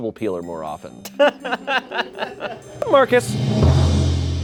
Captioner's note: crew laughs; deflated music